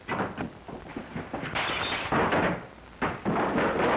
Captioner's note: glass shattering; crashing